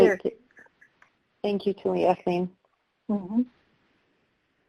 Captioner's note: speaks native language